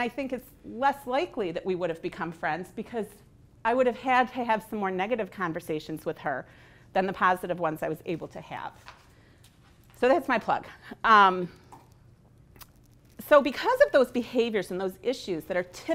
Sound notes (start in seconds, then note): none